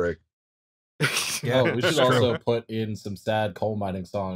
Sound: laughter

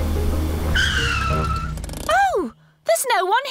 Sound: tires screech

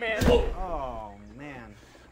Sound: punch

